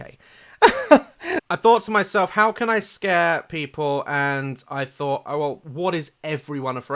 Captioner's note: inhale and chortle